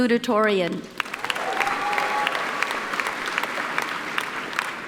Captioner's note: applauding